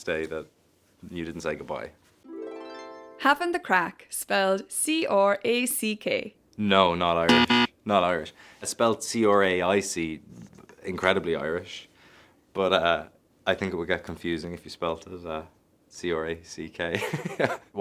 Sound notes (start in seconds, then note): 2.3 chiming music; 7.3 buzzer buzzes; 17.0 laughs